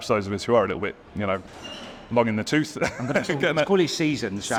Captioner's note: laughs